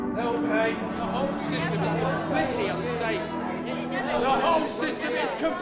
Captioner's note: voices get louder and more chaotic